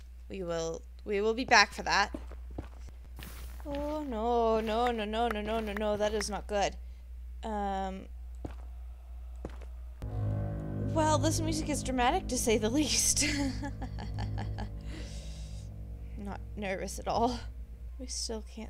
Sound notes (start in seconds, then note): 8.1 ominous music; 13.3 laughs nervously